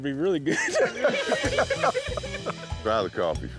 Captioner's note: laughter